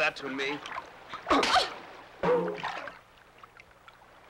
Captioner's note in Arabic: خرخرة